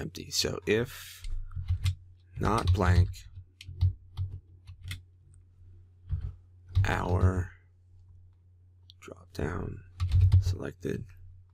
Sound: typing

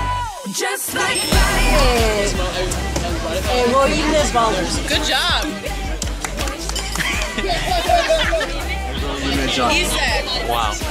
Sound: speaks in Greek

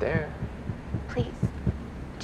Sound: banging

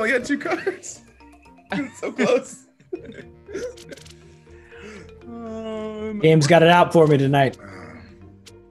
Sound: laugh

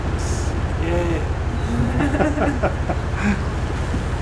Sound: laughing

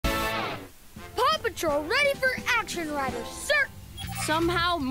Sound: tv playing

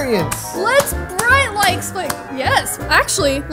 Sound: clapping

